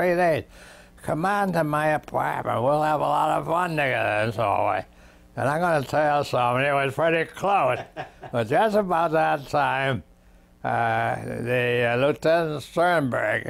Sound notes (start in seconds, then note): 7.6 laughs